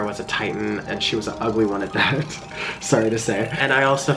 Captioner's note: laughs